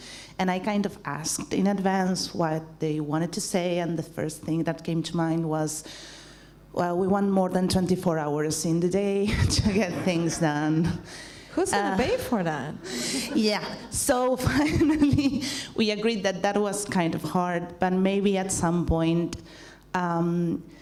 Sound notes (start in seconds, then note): 9.8 laughs; 12.8 laughs